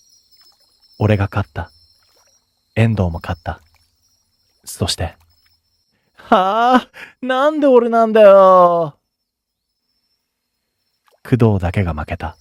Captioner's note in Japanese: 笑い